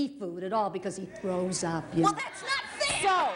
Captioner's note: laughs